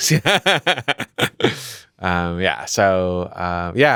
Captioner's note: laughs